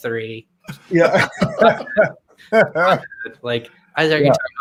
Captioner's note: laugh